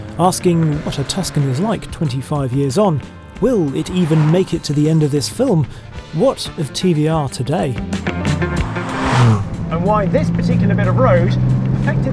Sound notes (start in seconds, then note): 8.6 car engine humming